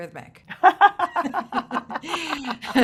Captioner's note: laughs